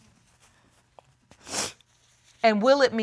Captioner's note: sniffles